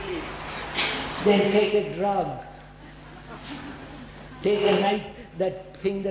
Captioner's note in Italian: risate